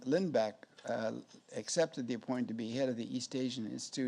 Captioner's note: none